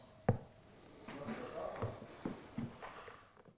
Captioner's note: quiet background conversation